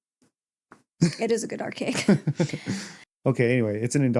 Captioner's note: haha